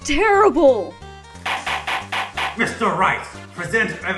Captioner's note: slamslamslamslamslam